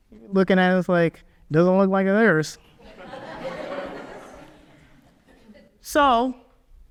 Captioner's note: audience laughs